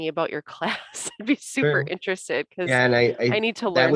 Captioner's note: laughter